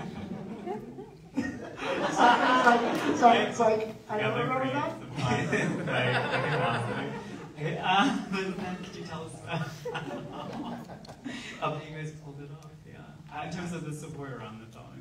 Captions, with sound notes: (audience laughs) Could you tell us how you guys pulled it off? In terms of the support around it all,